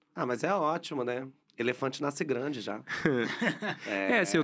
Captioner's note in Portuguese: risos